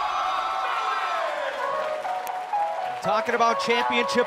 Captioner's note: cheers & applause